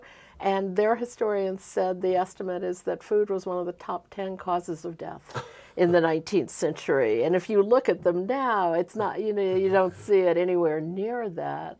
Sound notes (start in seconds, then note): 5.7 laughing